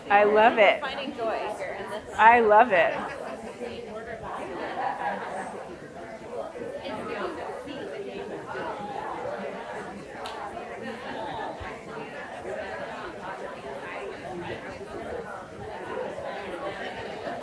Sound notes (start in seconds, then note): 5.1 people chattering continues